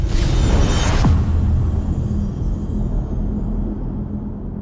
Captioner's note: dramatic sound